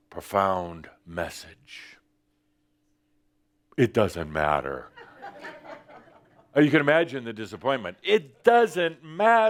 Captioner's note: some chuckles